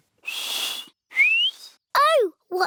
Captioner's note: whistles